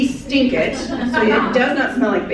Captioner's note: laughter